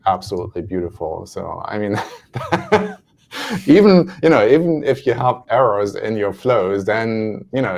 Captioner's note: laughs